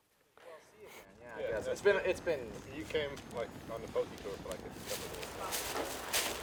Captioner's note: indistinct chatter